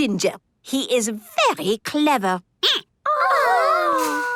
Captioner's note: squeaking